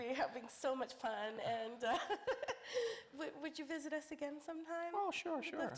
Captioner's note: laughs